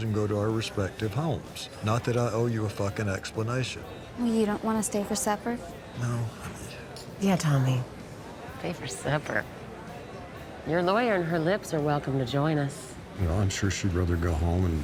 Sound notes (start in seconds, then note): none